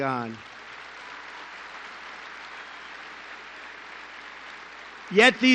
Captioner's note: applause